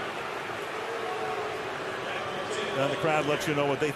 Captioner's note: crowd booing